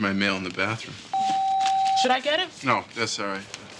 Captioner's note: phone beeps